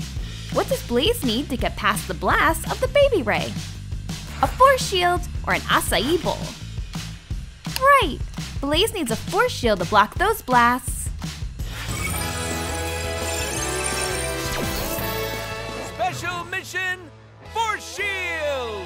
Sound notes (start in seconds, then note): none